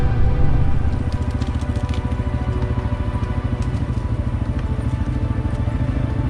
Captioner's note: engine continues humming